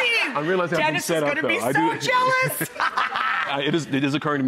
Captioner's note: laughs